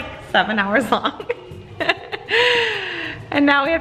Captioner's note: laughing